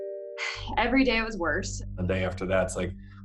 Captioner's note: sighs